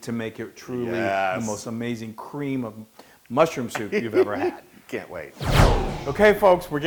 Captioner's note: laugh